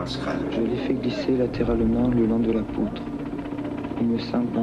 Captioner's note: S. Klau in French